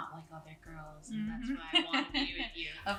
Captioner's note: laughs